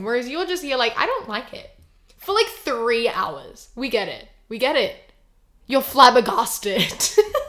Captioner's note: laughs